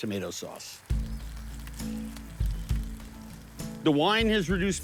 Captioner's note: pan sizzling